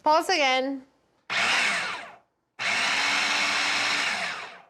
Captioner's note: food processor whirs